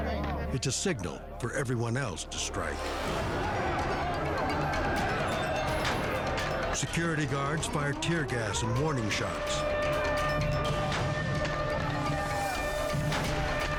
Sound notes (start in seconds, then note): 2.9 prisoners shout; 5.6 gun bangs; 9.3 siren wails; 10.7 gun bangs